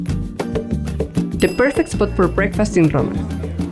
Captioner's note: bell dings